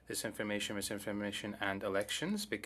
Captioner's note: speaking French